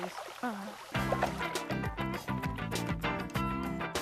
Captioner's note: sighs